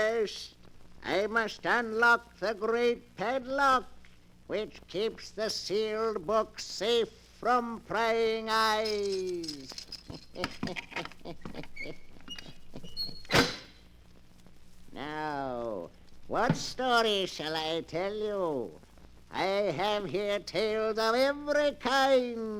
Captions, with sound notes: First, I must unlock the great padlock which keeps the sealed book safe from praying eyes. [Laughter] Now, what story shall I tell you? I have here tales of every kind.